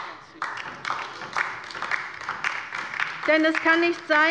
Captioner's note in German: Beifall bei der LINKEN